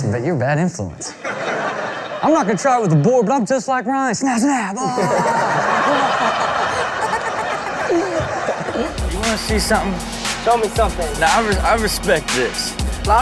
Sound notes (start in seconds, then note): 1.1 laughing; 4.7 laughing